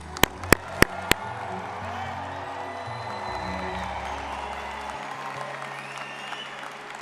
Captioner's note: crowd cheering; people applauding